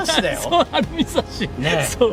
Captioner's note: laughs